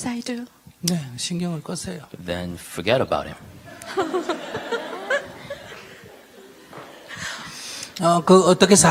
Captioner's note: audience/Questioner Laughter